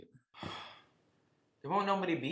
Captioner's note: sighs